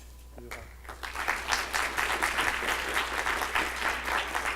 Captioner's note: audience applause